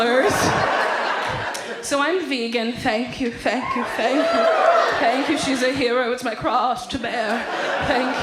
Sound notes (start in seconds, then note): 0.1 audience laughs